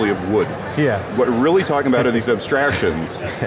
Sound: laughs

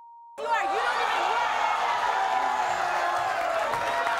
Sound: crowd cheers

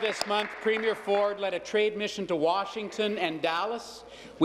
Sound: applause

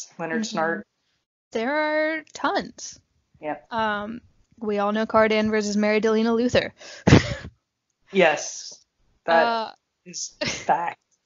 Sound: laughs

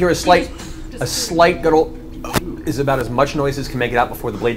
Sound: gurgles

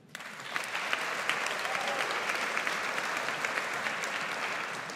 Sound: audience applauds

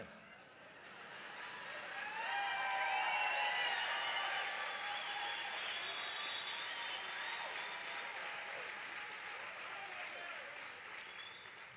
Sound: laughter and applause

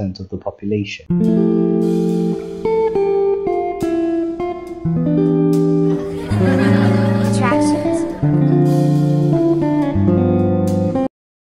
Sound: kids laughing

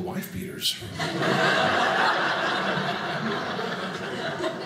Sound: audience laughing

